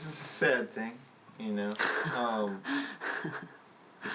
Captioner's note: laughs